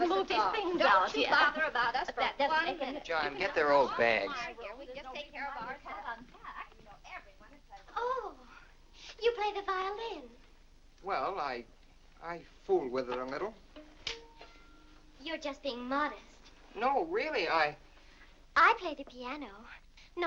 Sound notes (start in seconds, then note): 5.1 women chattering; 13.0 plucking violin strings